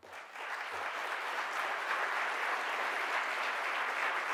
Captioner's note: audience applause